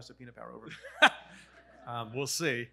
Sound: laughs

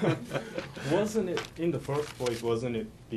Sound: laughter

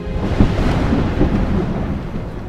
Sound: thunder rumbling

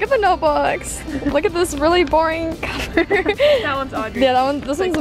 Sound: laughs

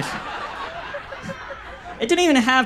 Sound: audience laughs

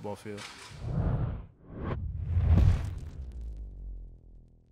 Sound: whoosh

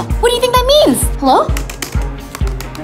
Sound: typing

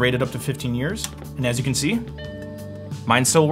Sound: computer beeps

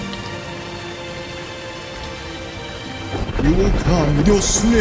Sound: rain falling, thunder crashing

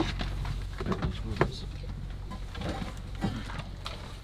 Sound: equipment clanging

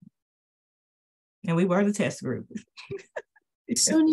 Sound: panelist laughs

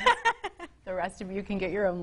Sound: woman laughing

